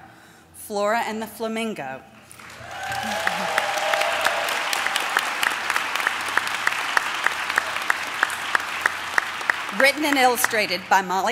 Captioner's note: applause